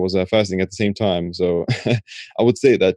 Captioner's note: chuckling